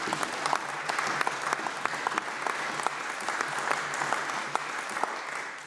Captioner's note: applause